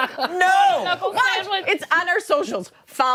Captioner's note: laughter